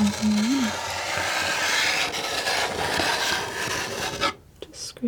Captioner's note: sculpture sounds